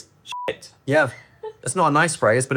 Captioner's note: beep